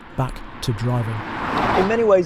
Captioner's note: car roaring